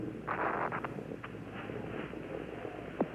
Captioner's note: PA system static